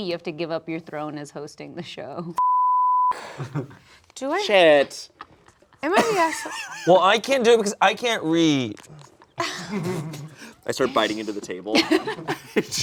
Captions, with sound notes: you have to give up your throne as hosting the show. (beep) - Do I- - Shit. - Am I the asshole? - Well, I can't do it because I can't read. - I start biting into the table,